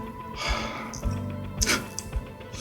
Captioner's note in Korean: 긴 한숨만이